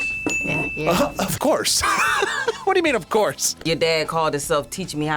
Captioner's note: laughs